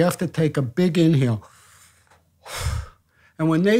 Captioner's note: inhales; exhales